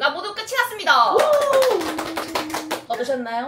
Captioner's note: round of Applause